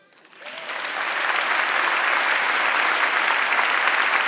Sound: audience clapping

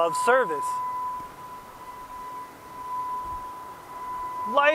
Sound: grand princess bell ringing

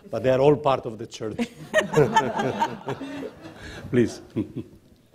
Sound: laughter

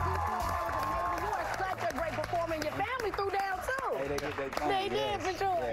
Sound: cheers and applause

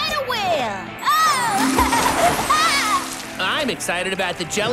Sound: Ginger laughing

